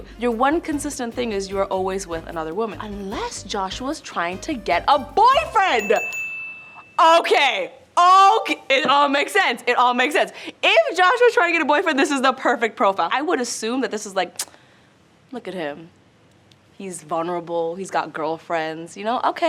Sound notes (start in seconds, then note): 5.5 bell dings